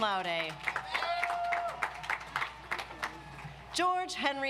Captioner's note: audience applauds